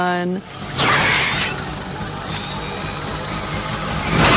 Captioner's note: creature yells